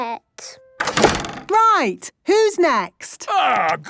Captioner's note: doors slamming